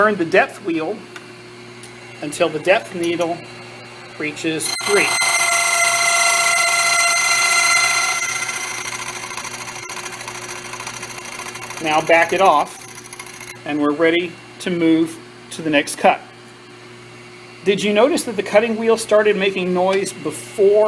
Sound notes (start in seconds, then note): 4.6 metallic grinding noise